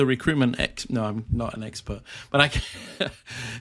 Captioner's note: chuckles